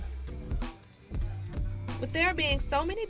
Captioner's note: tattoo gun buzzing